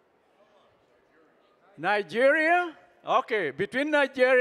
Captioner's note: none